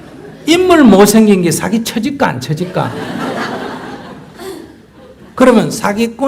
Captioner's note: audience Laughter; audience Laughter